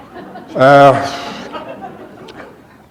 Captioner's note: laughter